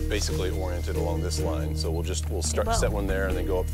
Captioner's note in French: rire